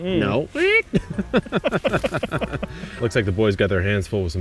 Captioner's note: laughing